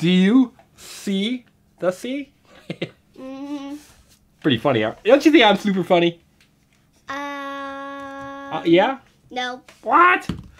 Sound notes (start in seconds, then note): 0.2 voiceover; 2.5 laughter; 7.3 voiceover